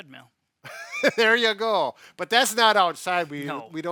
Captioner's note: laughing